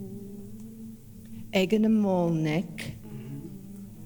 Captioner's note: In Mi’kmaq